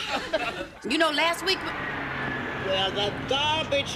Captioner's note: truck approaching